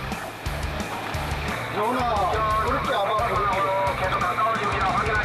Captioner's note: applause